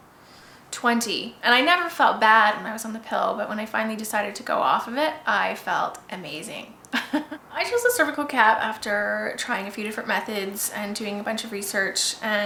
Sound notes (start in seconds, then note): 6.9 laughs